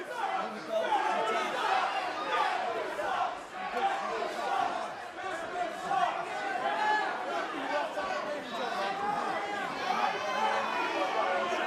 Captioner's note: crowd chatter